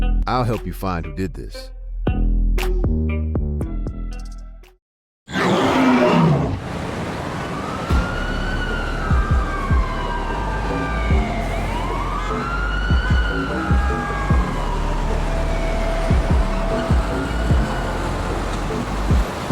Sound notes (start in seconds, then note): 5.4 gorilla grunting; 7.3 sirens blaring; 8.0 energetic music; 12.2 horns honking